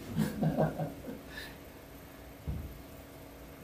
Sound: chuckles

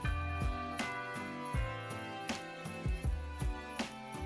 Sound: bells ringing

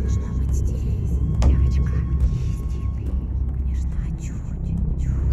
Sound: sinister whisper

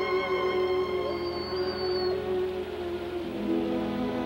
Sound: whining

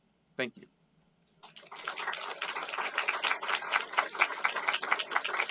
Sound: applause

